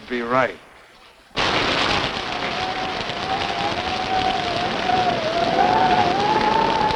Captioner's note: wind howling; thunder rumbling